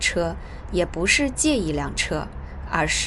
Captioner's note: shanghai dialect